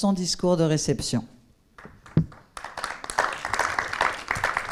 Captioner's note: applause